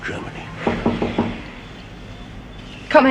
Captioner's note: knock on door